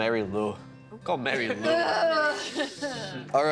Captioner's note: laughing